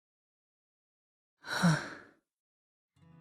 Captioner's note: sigh